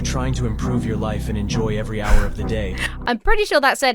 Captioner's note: chuckles